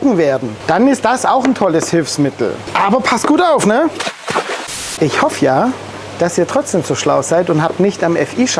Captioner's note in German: platsch